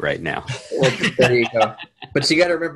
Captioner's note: men laughing